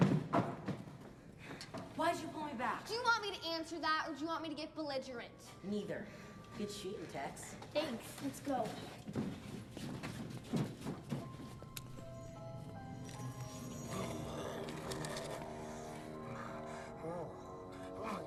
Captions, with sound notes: - WHY'D YOU PULL ME BACK? - DO YOU WANT ME TO ANSWER THAT, OR DO YOU WANT ME TO GET BELLIGERENT? - NEITHER. GOOD SHOOTIN', TEX. - THANKS. - LET'S GO. - [grumbling]